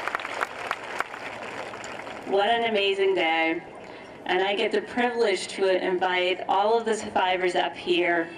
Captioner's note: applause